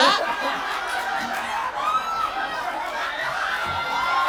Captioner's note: audience laughing